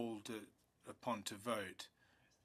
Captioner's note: speaking French